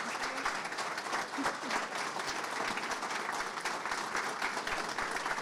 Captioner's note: audiences clapping